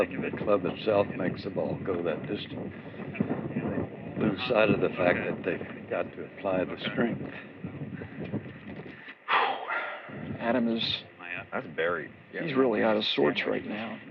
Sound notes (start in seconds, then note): 9.2 sighs